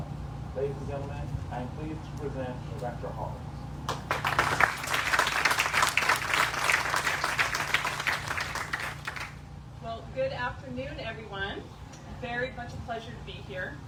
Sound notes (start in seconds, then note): 3.8 applause